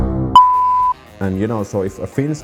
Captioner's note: dramatic music; beeps